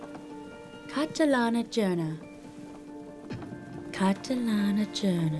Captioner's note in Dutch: Catherine spreekt Russisch